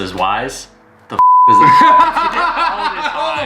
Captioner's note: beep; both laughing